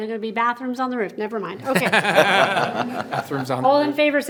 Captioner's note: members laughing